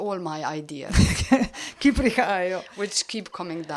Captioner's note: laugh